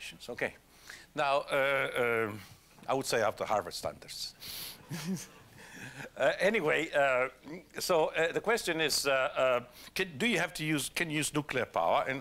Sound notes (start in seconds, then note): 4.9 laugh